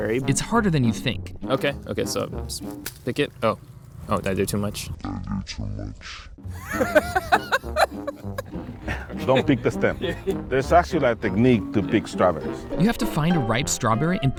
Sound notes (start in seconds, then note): 6.5 both laugh